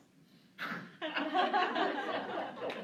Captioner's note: laughter